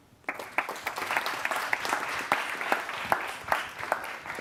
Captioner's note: audience applauding